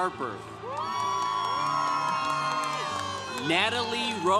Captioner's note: congregation cheering